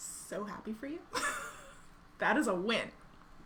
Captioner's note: laughing